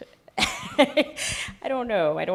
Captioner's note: laughs